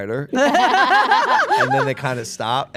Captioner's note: group laughing